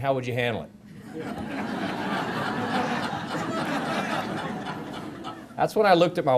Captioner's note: laughter